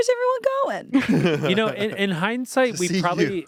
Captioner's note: laughs